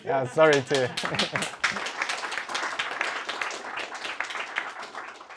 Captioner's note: audience clapping